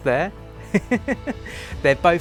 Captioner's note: laughing